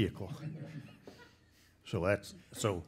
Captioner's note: laughing